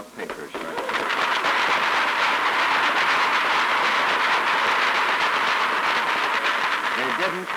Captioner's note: applause